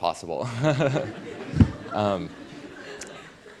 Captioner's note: laughter